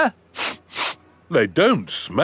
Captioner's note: sniffs